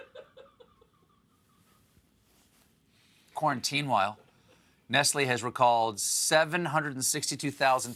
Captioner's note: laughter